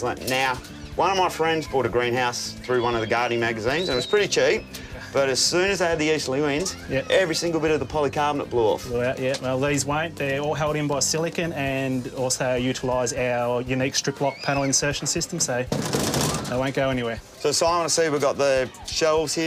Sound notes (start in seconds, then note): 15.5 tap tap tap!